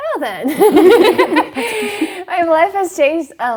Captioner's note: both Giggling